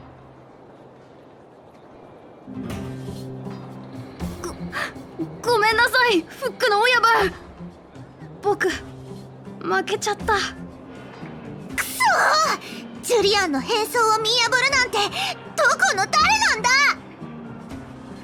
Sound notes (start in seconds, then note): 4.5 sigh